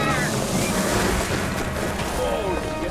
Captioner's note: feet rustling